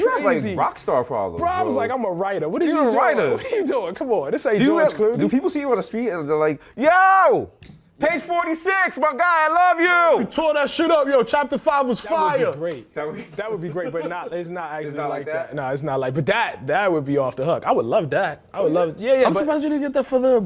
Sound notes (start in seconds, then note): 7.4 yelling